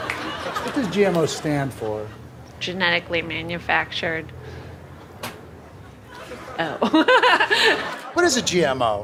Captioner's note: laughs